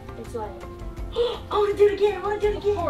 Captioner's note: gasping